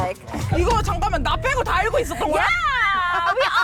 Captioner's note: shocked sound effect